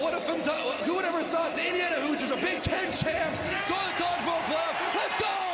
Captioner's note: chanting "heismandoza"